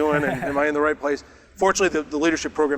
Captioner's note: laughs